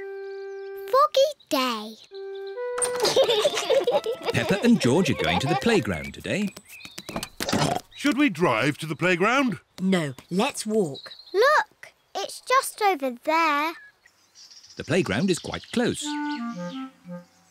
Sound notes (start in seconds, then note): 2.9 both laugh; 7.1 oinks